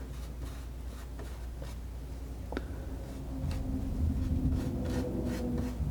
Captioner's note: scratching